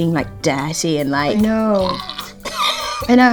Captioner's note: laughs